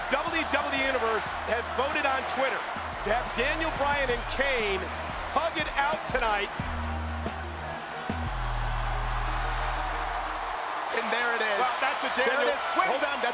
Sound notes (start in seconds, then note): 9.0 crowd cheers